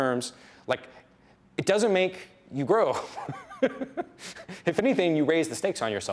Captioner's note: laughs